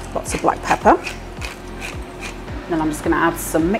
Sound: grind grind

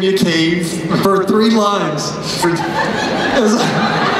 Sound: laughter

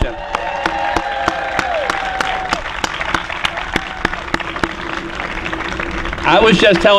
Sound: applause

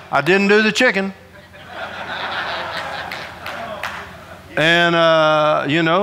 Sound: audience laughing

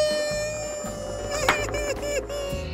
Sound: sobbing

